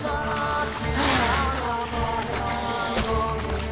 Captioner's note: snarl